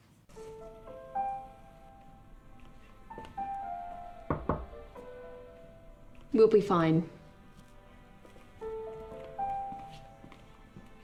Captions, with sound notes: (gentle orchestral music) (hand knocking on door) We'll be fine.